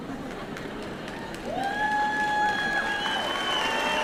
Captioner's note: applause